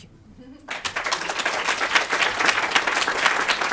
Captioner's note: applause